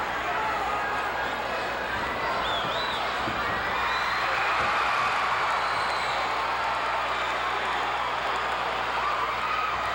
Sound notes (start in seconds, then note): 4.6 audience cheering